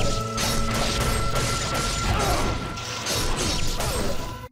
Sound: sword swishing

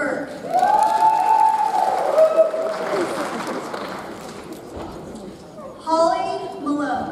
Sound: audience cheers; audience applauds

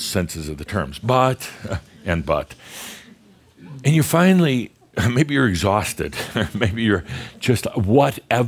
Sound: Adamus chuckles

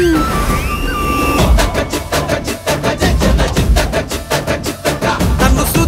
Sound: humming

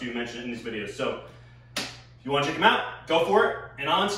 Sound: clap

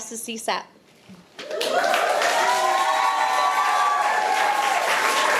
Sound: audience applauding

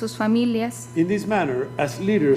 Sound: speaking foreign language

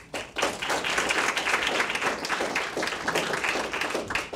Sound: audience clapping

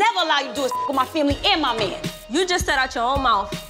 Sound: beep

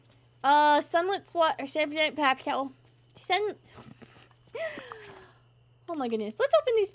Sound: laughs

